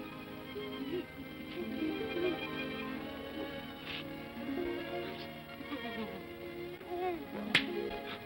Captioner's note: sentimental music; Scrooge sobs; claps hands together